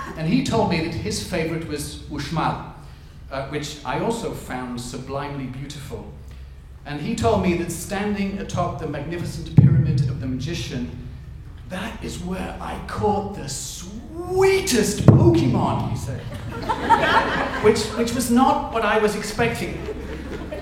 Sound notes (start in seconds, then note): 16.1 audience laughs